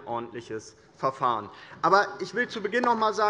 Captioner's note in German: Beifall des Abg